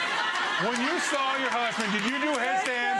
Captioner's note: audience laughs